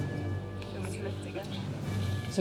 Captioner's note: indistinct chatter